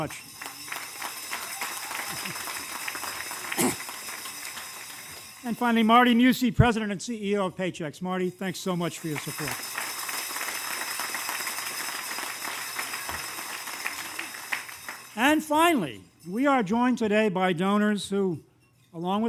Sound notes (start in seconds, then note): 0.0 applause; 9.0 applause